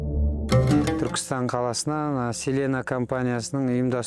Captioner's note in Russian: на казахском